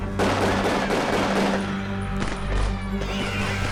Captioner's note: gun banging